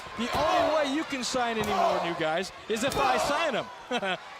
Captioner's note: crowd chatter